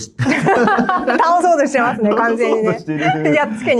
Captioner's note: laughs